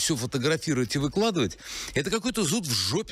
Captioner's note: speaking Alternate Language